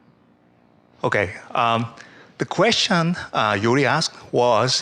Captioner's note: voiceover